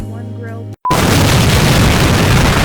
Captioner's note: massive explosion